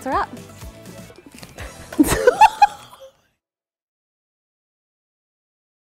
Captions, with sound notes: - That's a wrap. (both laugh)